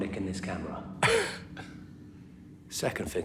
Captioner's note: Danny laughs